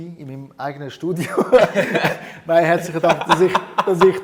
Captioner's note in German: Gelächter